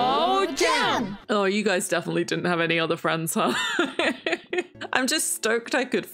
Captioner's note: laughs